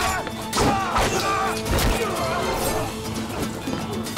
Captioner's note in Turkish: Kılıç sesleri